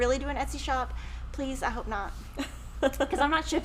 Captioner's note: chuckles